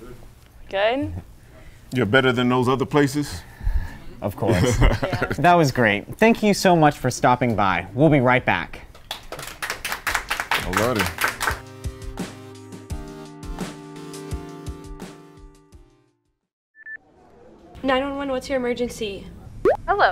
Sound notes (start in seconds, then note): 9.0 audience applauds; 11.6 synth music; 16.9 headset beeps